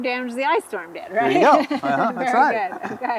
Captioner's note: laughs